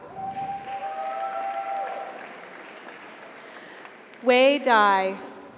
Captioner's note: audience cheers; audience applauds